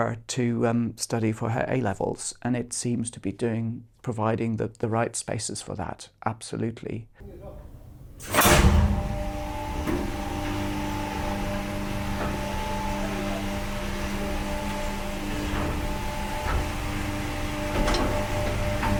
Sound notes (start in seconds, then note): 9.9 machine whirring